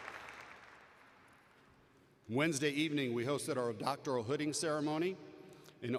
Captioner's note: applause